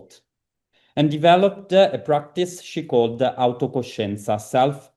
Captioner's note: italian; italian